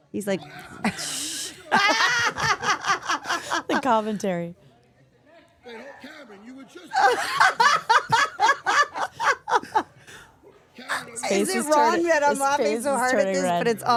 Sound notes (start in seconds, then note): 0.3 laughs; 7.0 Steph laughing